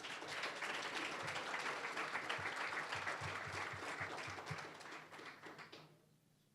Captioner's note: applause